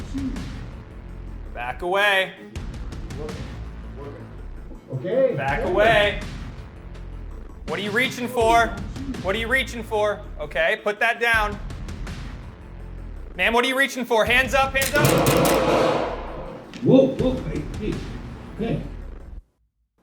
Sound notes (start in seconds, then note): 14.8 gun booming